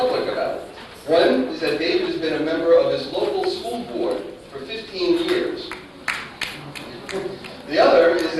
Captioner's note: applause